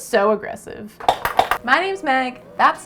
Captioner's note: obnoxious clicking sounds